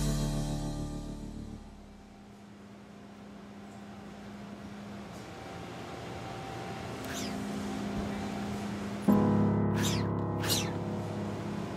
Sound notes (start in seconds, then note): 4.6 machine whirring